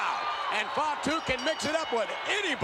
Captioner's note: bell ringing